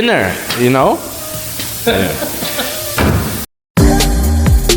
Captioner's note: awkward laughters